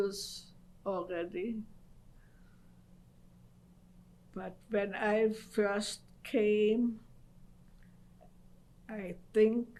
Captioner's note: pauses for 3 seconds